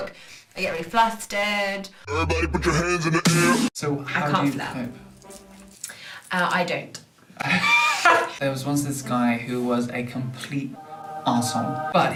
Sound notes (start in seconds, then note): 7.4 laughter